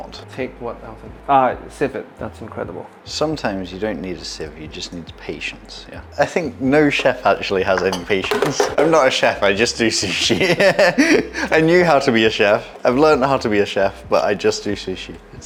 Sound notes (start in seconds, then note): 10.0 laughs